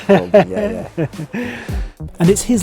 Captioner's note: Henry laughs